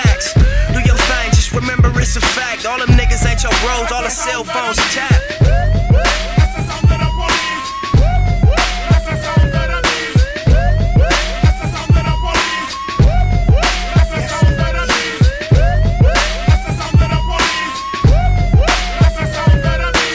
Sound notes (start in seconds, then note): 5.2 woop, woop